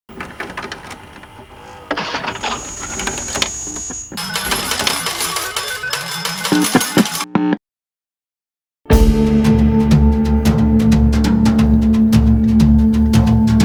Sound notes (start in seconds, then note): 0.2 clacking; 1.8 buzzing; 8.9 ominous music